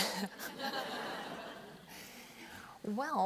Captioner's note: laughter